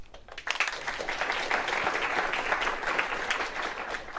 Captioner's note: applause